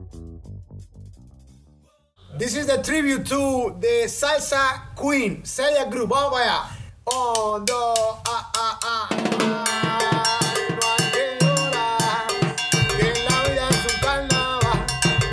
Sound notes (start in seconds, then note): 6.5 speaking in foreign language; 9.2 upbeat salsa music